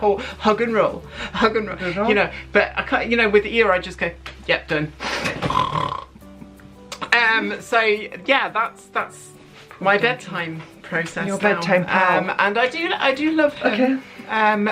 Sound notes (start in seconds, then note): 5.0 snores